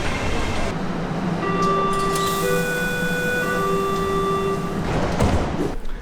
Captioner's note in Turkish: metro siren sesi